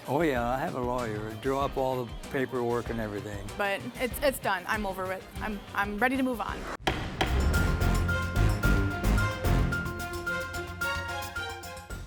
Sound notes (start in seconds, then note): 6.2 dramatic music; 6.8 gavel bangs